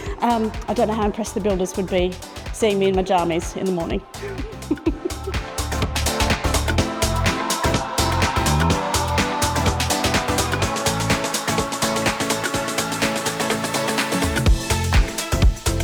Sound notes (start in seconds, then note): 4.4 laughs